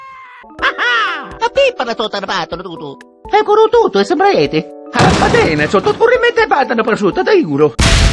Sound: italian gibberish

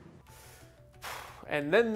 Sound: sighs

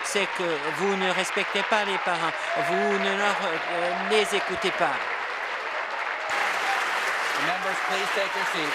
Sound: applause

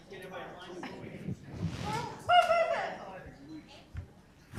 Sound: group chatter

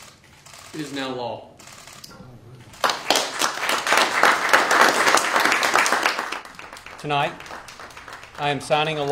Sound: applause

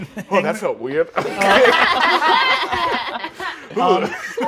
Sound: all laughing

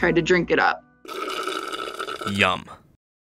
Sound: slurping

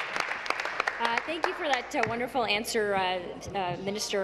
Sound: applause

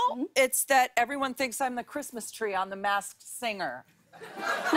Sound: laughter

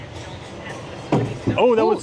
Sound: ball thudding

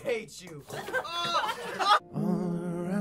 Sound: laughs

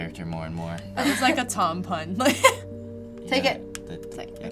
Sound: laughs

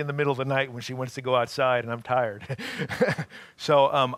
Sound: laughing

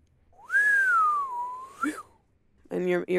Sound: whistles

